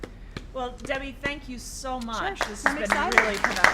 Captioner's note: applause